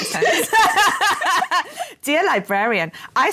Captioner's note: laughter